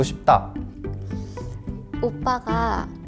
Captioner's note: sigh